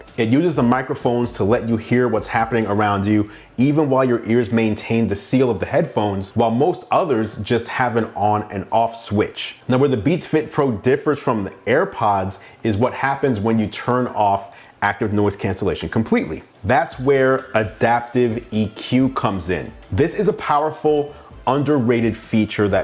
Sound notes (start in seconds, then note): 15.4 electronic trilling